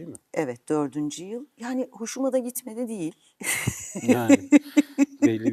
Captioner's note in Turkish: kahkaha